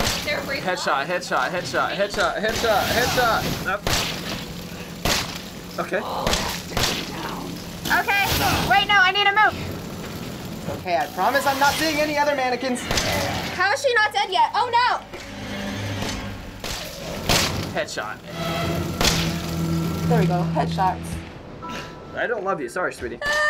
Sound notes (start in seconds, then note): 5.0 gunshots; 5.8 Mia grumbles; 15.1 gunshots; 23.2 whimpering